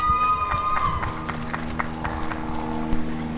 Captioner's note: applause and cheering